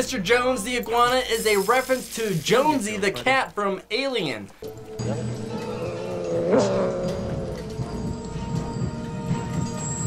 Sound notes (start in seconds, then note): 5.8 cat growls